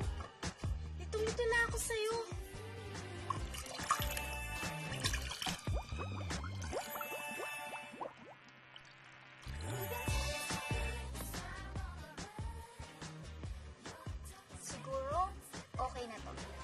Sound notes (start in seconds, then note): 3.3 tinkling, bubbling